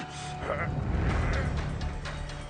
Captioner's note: man groaning